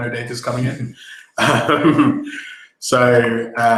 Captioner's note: laughing